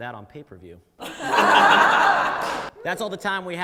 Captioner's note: audience laughs